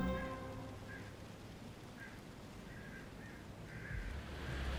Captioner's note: crows cawing